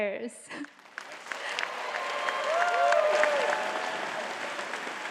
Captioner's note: audience cheering and clapping